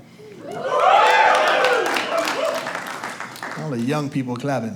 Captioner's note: audience applauds